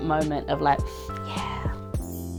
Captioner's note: deep inhale